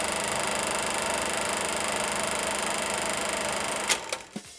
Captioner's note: film clacking